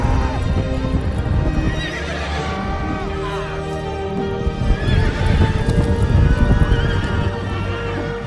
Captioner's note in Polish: okrzyki przeplatają się z rżeniem koni i odgłosem ich kopyt